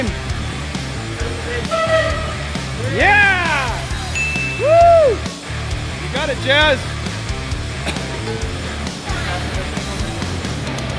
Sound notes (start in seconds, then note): 0.3 rock music; 4.1 ding